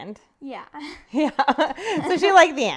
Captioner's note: laughs